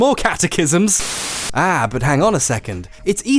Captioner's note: white noise